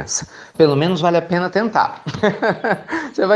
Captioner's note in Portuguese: Risos